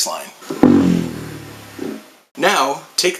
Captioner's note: sound fx: descending note